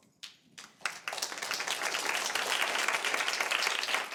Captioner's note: audience applauding